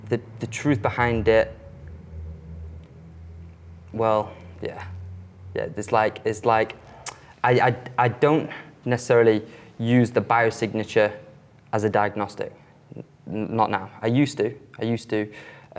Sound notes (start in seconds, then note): 2.7 car engine roars